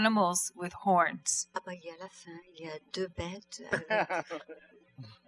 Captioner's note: speaking french